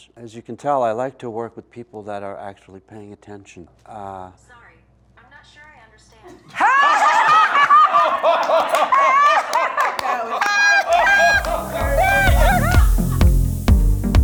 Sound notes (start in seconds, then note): 6.4 group laughing; 10.9 upbeat music